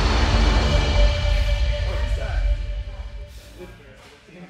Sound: indistinct chatter in background

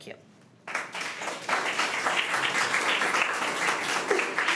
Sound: crowd clapping

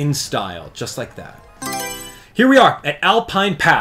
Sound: Mario Selection Sound

